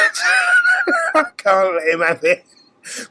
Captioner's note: laughs